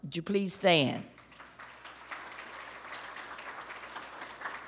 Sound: applause

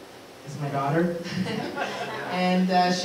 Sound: laughter

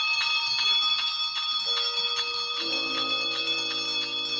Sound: clocks chiming

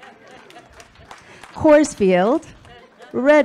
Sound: public laughs

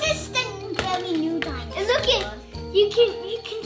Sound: children excitedly talk over one another; toys clatter

